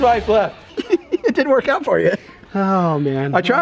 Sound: giggles

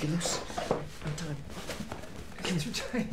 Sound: chair squeaking

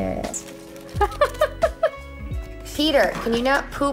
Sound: chuckles

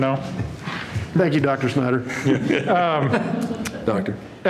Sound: laughter

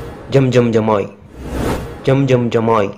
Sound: mantra chanting

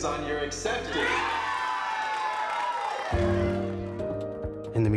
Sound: crowd cheers

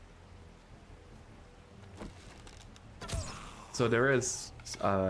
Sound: laughs

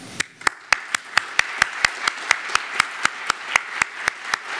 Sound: audience applauds

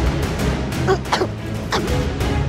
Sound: choking

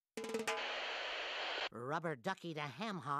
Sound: static buzzing

